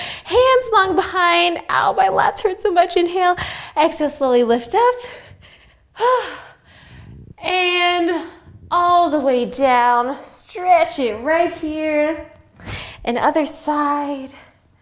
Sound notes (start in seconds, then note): 5.0 breathes